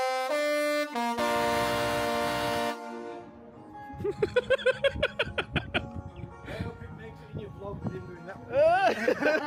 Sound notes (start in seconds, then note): 0.0 upbeat horn music continues; 4.0 laughs